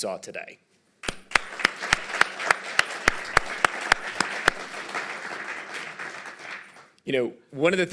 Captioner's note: applause